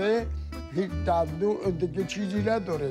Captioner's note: speaking Foreign Language